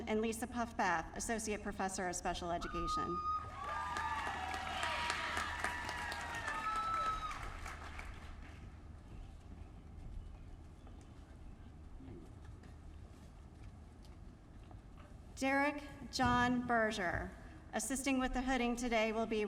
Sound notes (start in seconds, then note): 3.4 applause